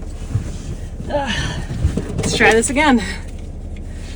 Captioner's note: grunts